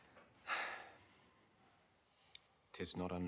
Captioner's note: Bassanio sighs